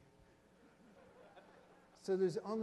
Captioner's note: audience chuckles